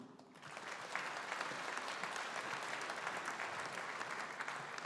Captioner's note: audience applauding